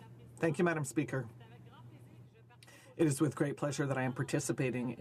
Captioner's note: speaking French